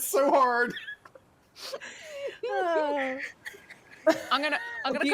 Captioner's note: people laughing